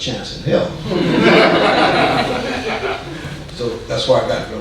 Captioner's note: audience laughing